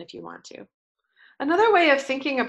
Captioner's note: pause